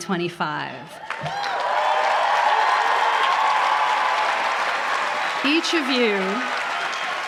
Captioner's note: applause